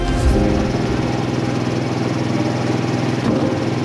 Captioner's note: truck humming